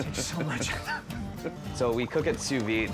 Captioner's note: laughing